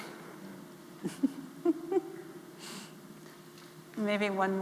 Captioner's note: chuckling